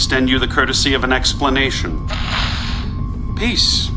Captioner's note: static buzzing